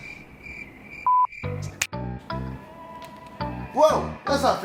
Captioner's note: crickets chirping; fingers clicking